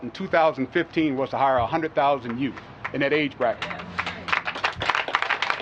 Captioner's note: applause